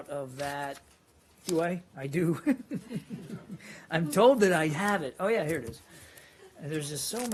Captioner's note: laughter